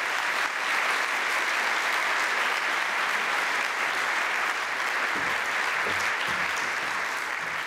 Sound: audience applauds

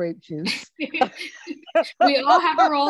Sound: laugh

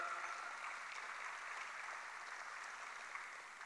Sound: applause

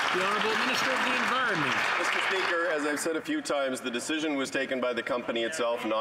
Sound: some Applause

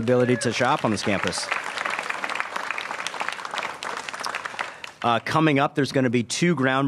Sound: applause

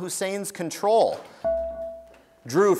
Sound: buzzer beeps

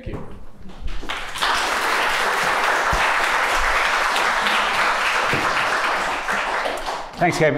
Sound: applause

